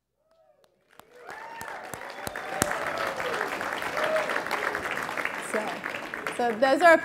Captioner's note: applause